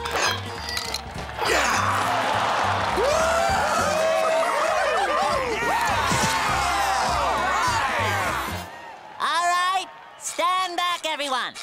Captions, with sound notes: [grunting] [cheering, applauding] All right, stand back, everyone.